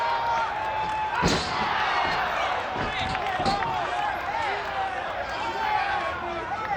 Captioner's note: audience applauds and cheers